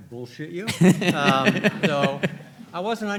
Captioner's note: all laughing